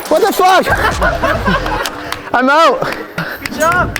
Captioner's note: all laughing